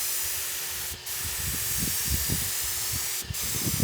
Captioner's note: nozzle hissing